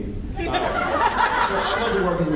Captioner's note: laughs